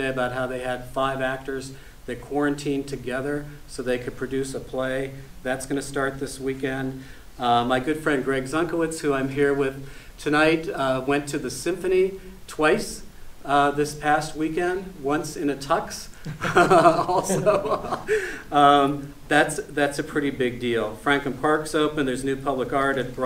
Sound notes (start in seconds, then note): 16.2 chuckles